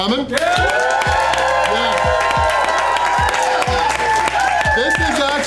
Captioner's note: crowd clapping and cheering